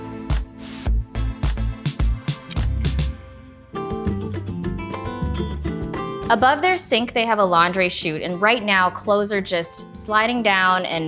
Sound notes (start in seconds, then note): 2.4 clock ticks; 3.8 calm music